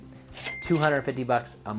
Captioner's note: cash register dinging